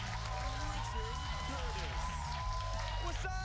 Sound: cheers and applause

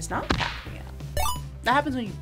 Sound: game beeps

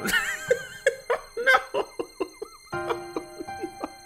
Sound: laughing; laughs

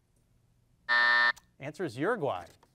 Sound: buzzer dings

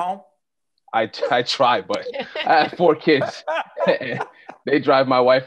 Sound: laughing

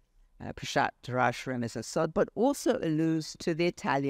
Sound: speaks foreign language

